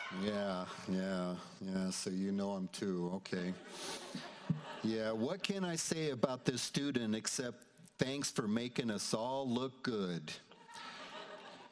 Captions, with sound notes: Yeah, yeah, yeah, so you know him too, okay. (audience laughs) Yeah, what can I say about this student except thanks for making us all look good?